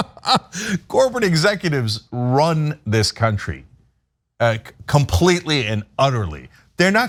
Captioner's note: laugh